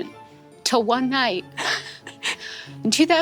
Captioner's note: laughs